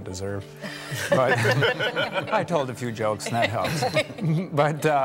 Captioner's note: laughter